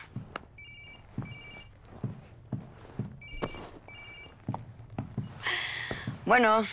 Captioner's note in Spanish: Suena el celular